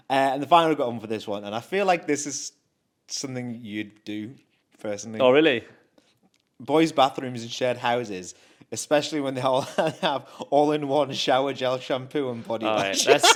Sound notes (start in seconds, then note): 9.9 chuckles; 12.7 laughs